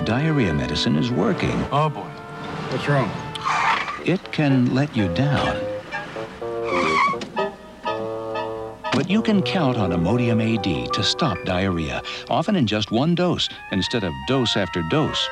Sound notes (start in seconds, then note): 6.3 tires screech